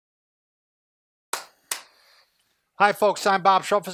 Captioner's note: clapping